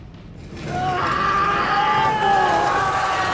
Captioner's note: Ash and Clarke shout and groan